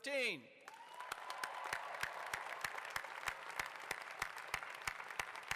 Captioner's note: applause